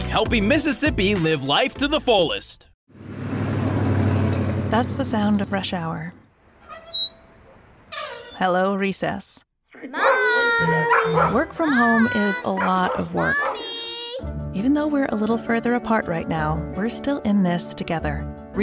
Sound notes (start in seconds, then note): 3.2 sound of motor; 6.5 sound of brakes; 9.9 dog barking